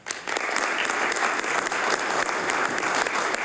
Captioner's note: applause